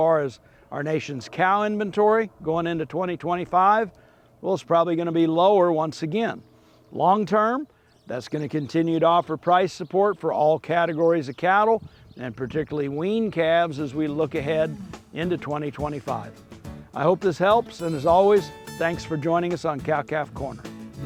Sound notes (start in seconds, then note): 0.0 airplane softly roars; 7.4 birds chirping; 16.2 upbeat music; 20.8 upbeat music